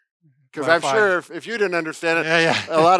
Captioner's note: mumbles